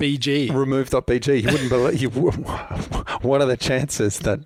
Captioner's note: laughs